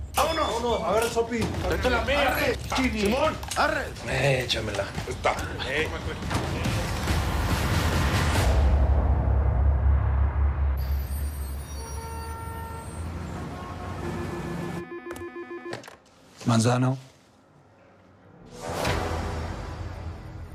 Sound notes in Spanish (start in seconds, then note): 14.1 Suena el teléfono